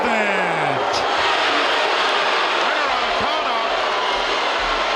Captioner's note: audience booing